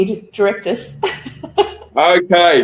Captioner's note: laughing